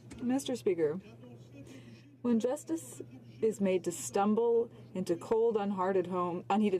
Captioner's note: speaking French